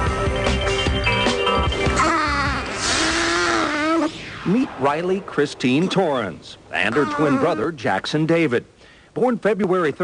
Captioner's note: baby cooing